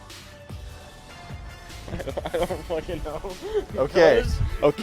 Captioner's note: laughs